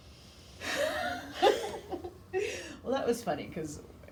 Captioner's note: both laughing